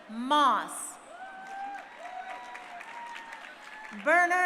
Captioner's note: crowd cheering